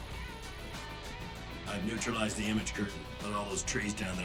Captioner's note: over comms